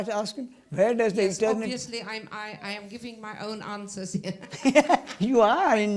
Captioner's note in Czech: smích